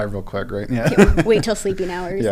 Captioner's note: laugh